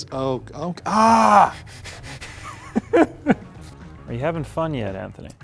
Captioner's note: laughing